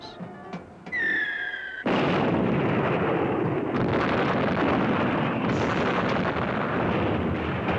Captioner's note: shell whistles; explosions